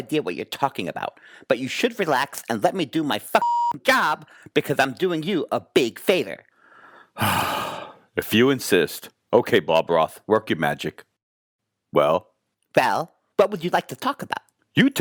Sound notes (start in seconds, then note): 3.4 beep